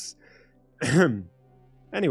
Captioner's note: ahem